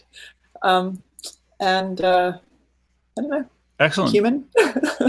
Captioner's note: laughing